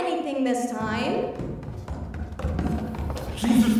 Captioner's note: stomping down the stairs